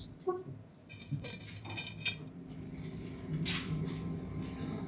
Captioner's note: sink scraping across shelf